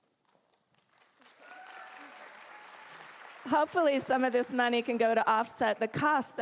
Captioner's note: applause